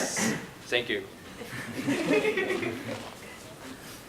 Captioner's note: laughter